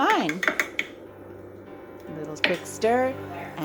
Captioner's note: spoon clinks in glass